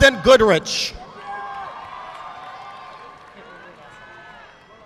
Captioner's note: audience clapping